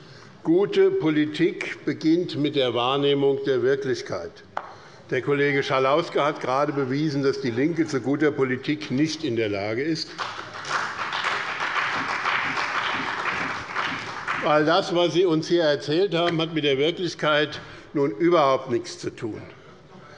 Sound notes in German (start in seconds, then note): 10.1 Beifall bei dem BÜNDNIS 90/DIE GRÜNEN und der CDU